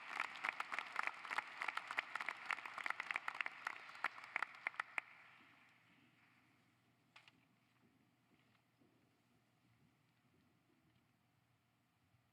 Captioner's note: applause